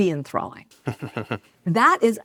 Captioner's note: laughs